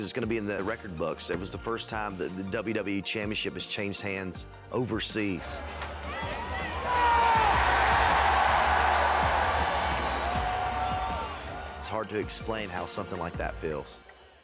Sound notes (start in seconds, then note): 8.8 crowd cheers